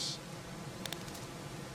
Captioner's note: clapping